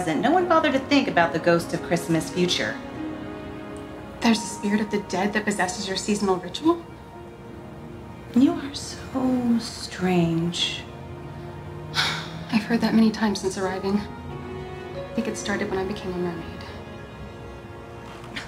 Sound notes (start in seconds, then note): 11.9 sighs